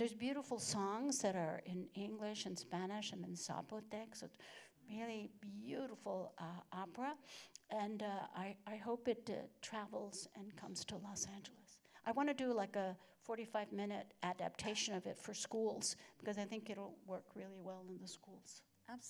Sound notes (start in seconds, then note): none